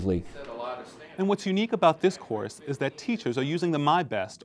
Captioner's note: background discussion